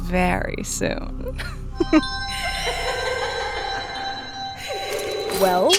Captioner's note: lascivious chuckle